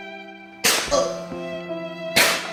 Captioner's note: gunshot; gunshot